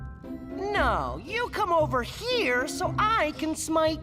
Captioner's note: none